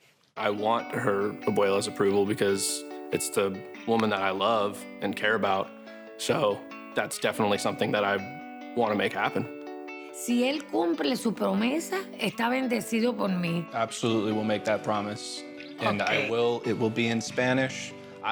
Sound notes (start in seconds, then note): 10.4 speaks Spanish